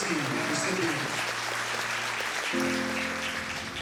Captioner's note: applause continues